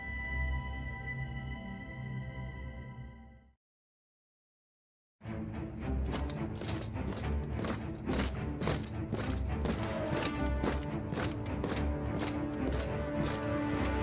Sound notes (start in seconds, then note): 5.2 dramatic orchestral music; 6.0 steps thudding